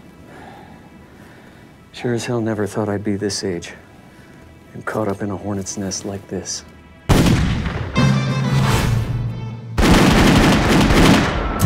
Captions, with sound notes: - Sure as hell never thought I'd be this age, and caught up in a hornet's nest like this. (gun fires) (dramatic western music)